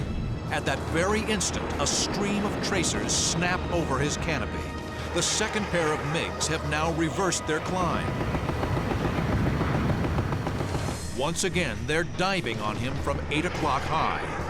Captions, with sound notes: At that very instant, a stream of tracers snap over his canopy. The second pair of MiGs have now reversed their climb. [gunshots] Once again, they're diving on him from eight o'clock high.